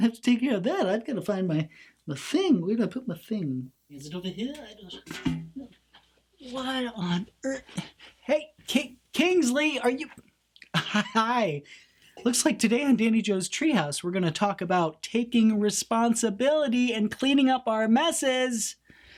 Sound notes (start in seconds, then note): 5.0 bucket clangs; 10.6 laughs; 15.0 raises voice